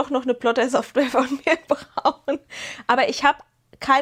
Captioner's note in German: gelächter